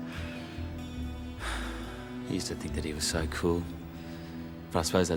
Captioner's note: sighs